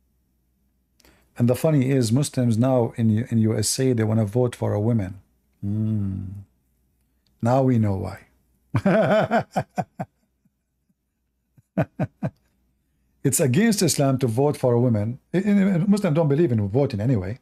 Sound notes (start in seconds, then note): 8.7 Ketawa